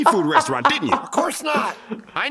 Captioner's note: laughing